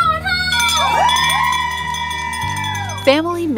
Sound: rings bell and everyone cheers

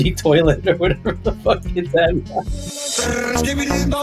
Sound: laughs

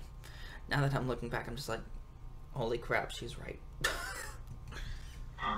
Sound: laughs

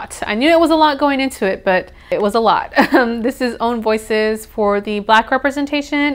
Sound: awkward laugh

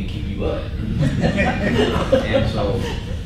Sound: laughing

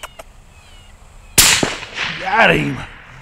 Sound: squeaking; gunshot

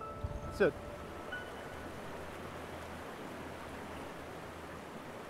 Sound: stream rushes

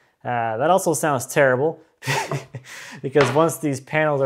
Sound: chuckles

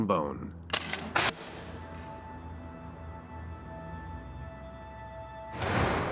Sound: arrow thuds; arrow whooshing

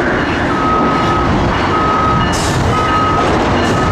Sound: bells ringing

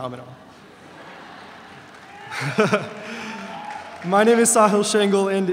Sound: audience laughing

